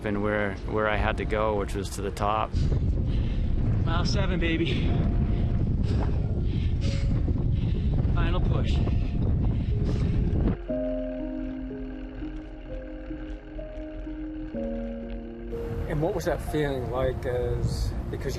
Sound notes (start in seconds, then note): 4.6 breathing deeply; 9.8 wind blowing